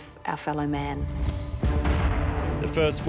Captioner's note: tense music; cannon blasts